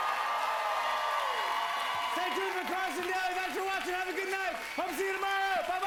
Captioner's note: cheers and applause